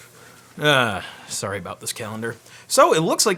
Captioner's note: sighs